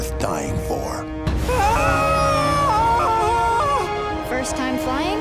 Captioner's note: screaming